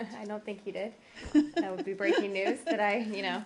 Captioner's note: laughter